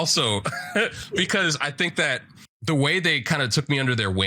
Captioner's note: laughs